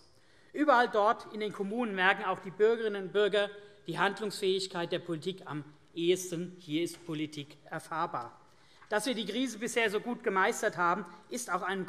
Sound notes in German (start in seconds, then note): none